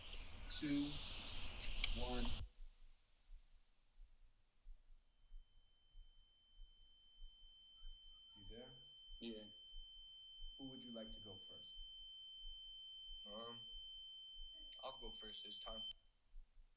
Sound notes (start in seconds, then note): 5.2 electronic beeping